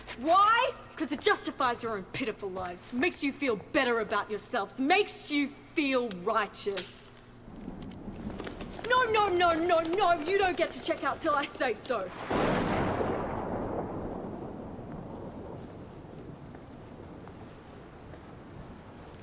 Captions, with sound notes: WHY?! Cause it justifies your own pitiful lives. Makes you feel better about yourselves. Makes you feel righteous! [gun snaps] No! No! No! No! No! You don't get to check out till I say so! [thunderclap]